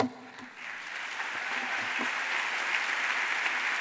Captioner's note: audience applauds